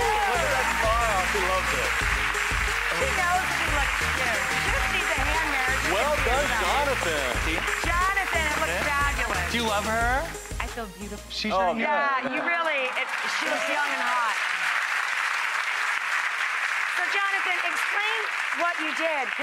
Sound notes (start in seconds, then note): 2.0 upbeat music; 14.2 clapping and cheering